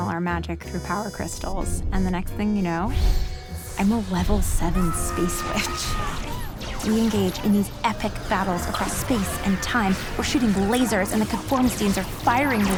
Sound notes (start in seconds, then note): 8.8 conformistines clamor